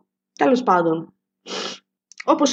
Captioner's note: inhalation from the nose